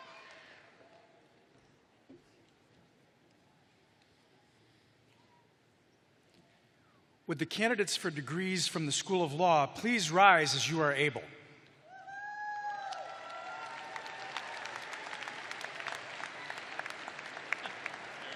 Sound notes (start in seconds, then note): 6.1 cheering; 15.8 cheers and applause